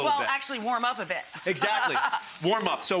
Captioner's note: laughing